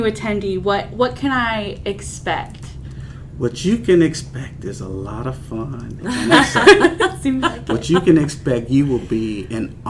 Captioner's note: laughter